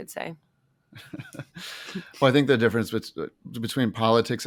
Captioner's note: laughs